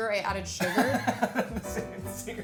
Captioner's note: laughs